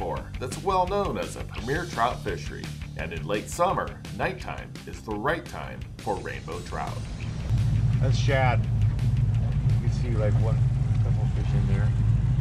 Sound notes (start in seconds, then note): 5.9 boat engine running